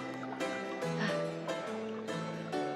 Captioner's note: sighs